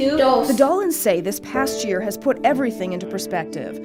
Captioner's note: voiceover